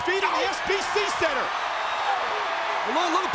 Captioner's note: crowd cheers